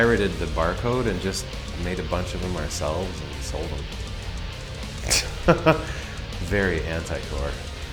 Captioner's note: laughs